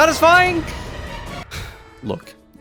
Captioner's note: exhale